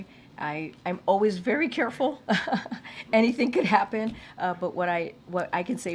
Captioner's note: laughs